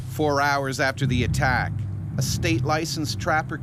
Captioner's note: voiceover